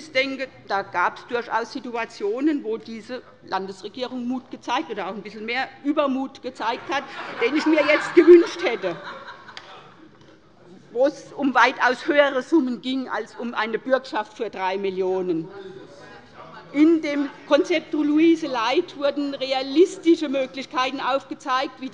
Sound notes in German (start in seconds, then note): 6.7 Lachen bei der SPD und bei der LINKEN